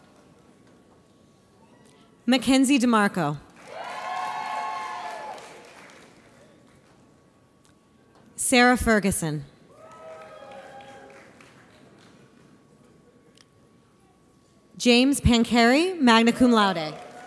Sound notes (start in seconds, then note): 3.6 audience cheers; 9.8 audience applauds